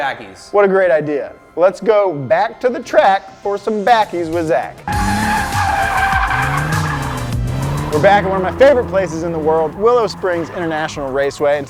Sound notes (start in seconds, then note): 4.8 tires screech; 4.8 engine revs